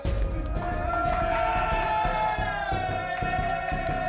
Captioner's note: cheering